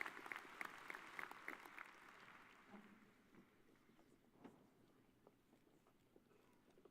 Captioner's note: cheers and applause